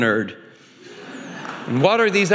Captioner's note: audience laughing